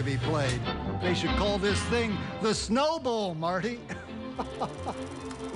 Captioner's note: laughs